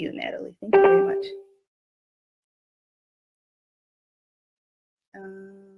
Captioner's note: ding